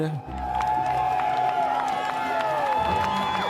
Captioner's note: crowd cheering